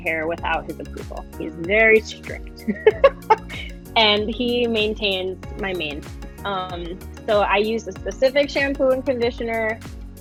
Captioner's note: laughing